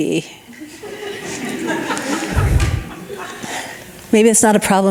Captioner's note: audience laughing